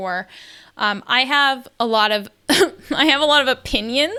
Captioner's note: laughs